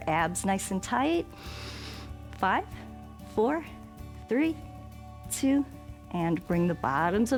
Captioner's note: inhales